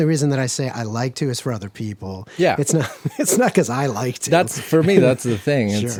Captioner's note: laughs